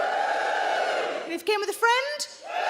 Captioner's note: crowd members cheer